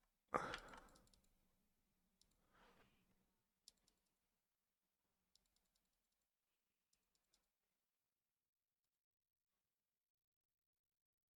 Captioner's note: silence